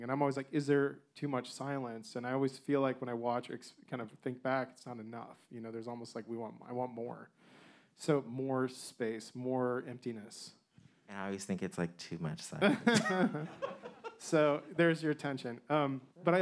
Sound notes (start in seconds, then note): 12.7 man laughing